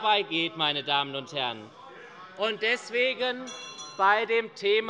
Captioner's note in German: Anhaltende Unruhe - Glockenzeichen der Präsidentin